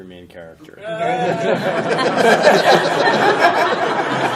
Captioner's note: laughter